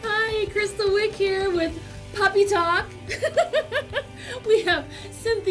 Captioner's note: laughs